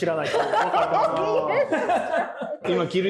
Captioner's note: laughing